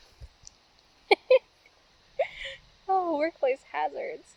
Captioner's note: laughing